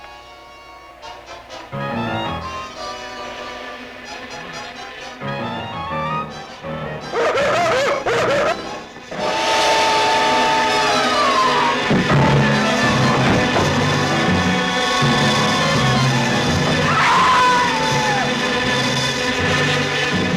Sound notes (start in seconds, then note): 0.2 suspenseful music; 3.6 buzzing; 7.3 yelling; 9.2 dramatic music; 17.1 screaming